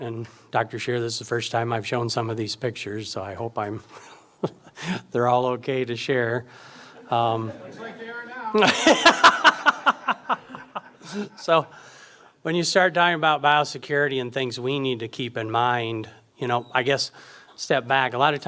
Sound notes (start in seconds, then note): 3.9 chuckles; 9.2 audience and speaker laugh